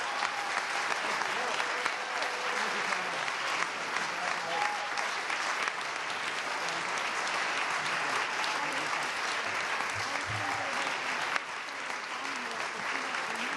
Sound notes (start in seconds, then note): 0.0 cheers and applause